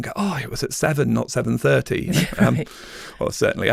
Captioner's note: chuckles